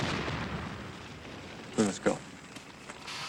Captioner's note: explosion